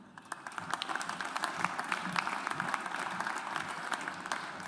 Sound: audience applauds

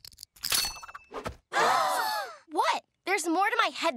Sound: gasping

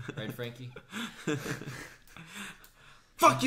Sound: laughs

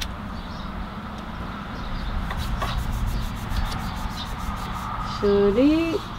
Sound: birds chirping happily in celebration

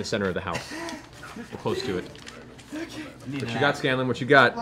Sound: frantic breathing

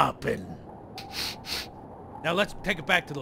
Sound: sniffing

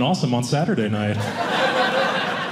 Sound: audience laughing

